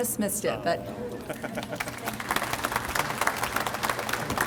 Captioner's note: audience applauds